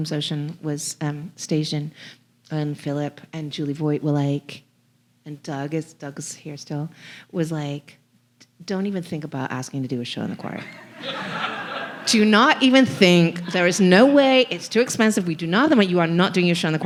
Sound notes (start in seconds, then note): 10.6 audience laughing